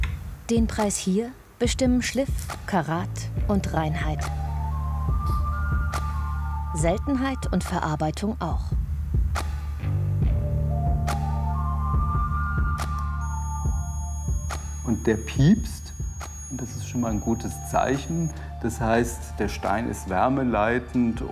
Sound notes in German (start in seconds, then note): 13.0 Piepsen